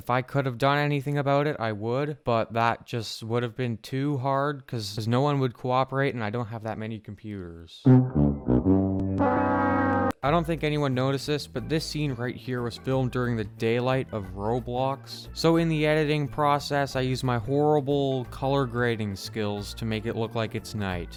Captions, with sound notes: If I could have done anything about it, I would have, because that would have been too hard, cuz no one would cooperate, and I don't have that many computers... (Fail sound effect) I don't know if anyone noticed this, but this scene was filmed during the daylight of Roblox.. so in the editing process, I used my horrible color grading skills to make it look like it's night.